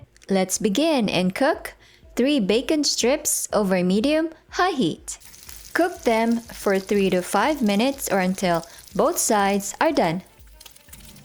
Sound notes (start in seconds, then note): 7.9 oil sizzling; 10.4 oil sizzling